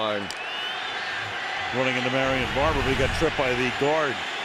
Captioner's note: crowd cheering